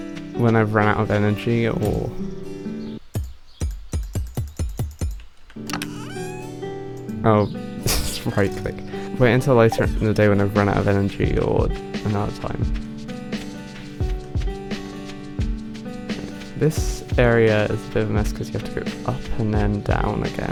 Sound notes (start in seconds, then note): 3.0 repeated locked noises; 7.9 wheeze